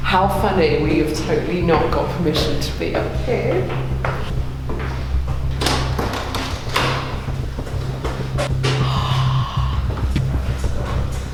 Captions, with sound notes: How funny, we have totally not got permission to be up here. (door opening) (gasping)